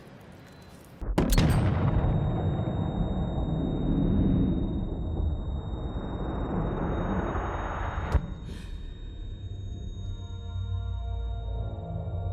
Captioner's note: echoed gunshot, no audible dialogue